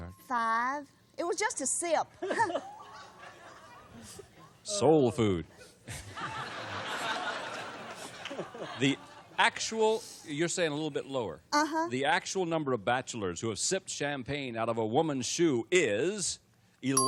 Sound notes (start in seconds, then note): 2.2 laughter; 5.8 laughter